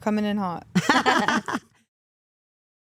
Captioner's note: Stephanie laughing